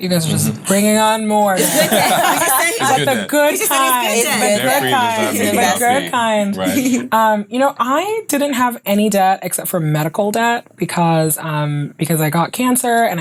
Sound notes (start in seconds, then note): 1.5 laughs